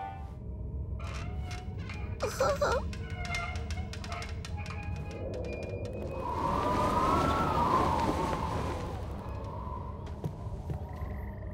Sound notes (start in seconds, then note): 1.0 creaking; 5.9 wind blowing